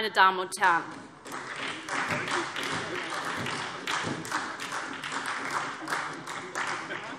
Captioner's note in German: Beifall SPD